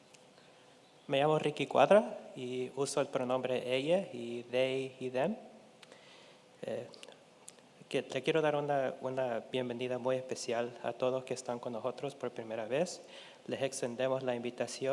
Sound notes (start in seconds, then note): 1.2 speaking in Spanish